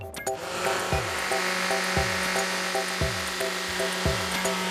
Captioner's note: whirring